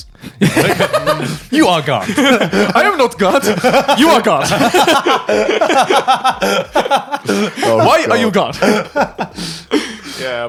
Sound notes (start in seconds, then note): 0.4 laughing; 3.4 laughing